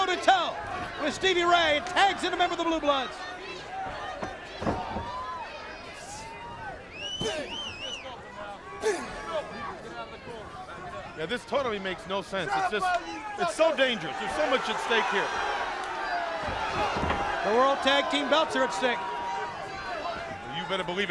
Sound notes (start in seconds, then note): 3.6 crowd chatter